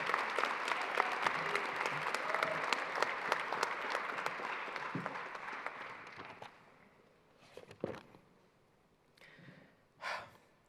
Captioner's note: applause